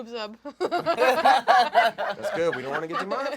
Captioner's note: laughing